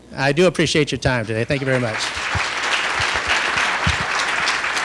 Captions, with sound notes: I do appreciate your time today. Thank you very much. [ Applause ]